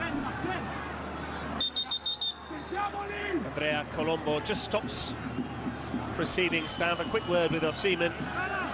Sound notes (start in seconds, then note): 2.2 drumming; 4.3 whistle